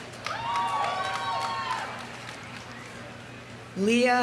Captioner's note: audience applauding; audience cheering